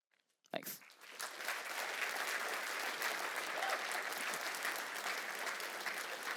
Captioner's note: applause